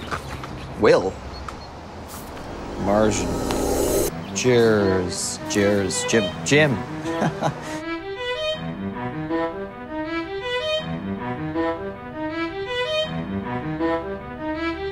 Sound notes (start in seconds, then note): 2.1 dramatic music; 7.0 laughs; 8.1 dramatic music